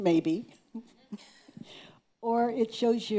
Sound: chuckling

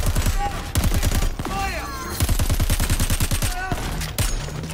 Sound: guns fire

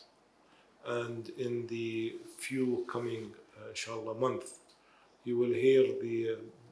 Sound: speaking in foreign language

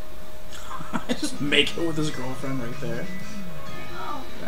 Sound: laughing

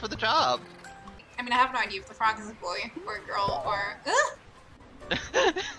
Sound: startled noise

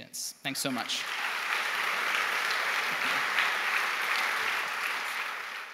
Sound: clapping

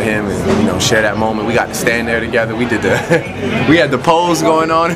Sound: laughs

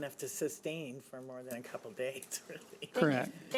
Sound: laughs

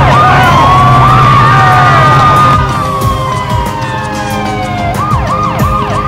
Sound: sirens blaring; screaming

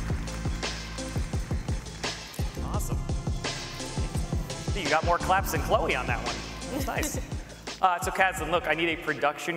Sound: applause

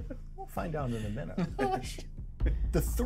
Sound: laughs; speaker laughs

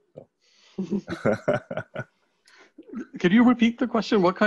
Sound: laughs

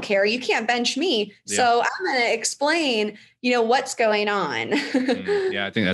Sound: laughs

